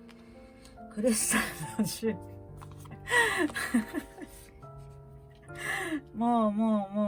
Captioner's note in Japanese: 笑い